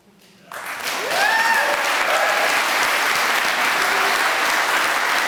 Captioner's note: applause